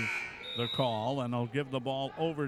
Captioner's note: buzzer sounding